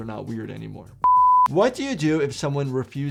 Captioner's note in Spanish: pitido en pantalla